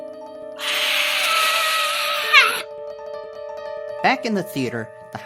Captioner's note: Zoey screams